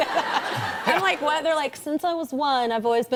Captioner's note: laughter